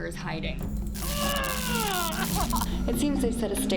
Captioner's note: groaning